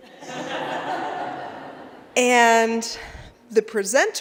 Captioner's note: laughter